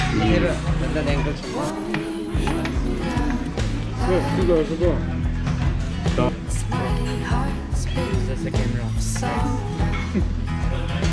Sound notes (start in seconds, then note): 9.8 laughing